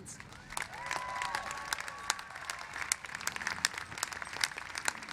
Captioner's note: cheers and applause